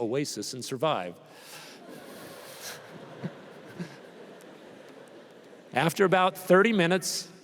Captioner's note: laughter